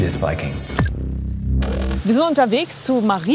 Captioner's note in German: Dröhnen